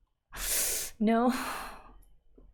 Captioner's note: sharp inhale